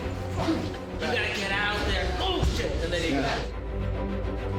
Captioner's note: grunts